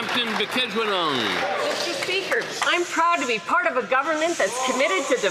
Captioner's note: applause